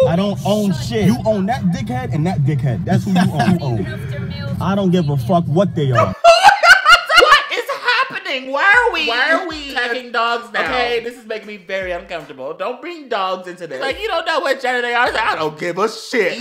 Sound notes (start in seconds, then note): 5.9 confusion laughter